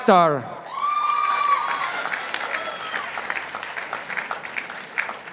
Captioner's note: participants applauding